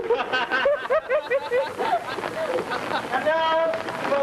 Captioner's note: laughter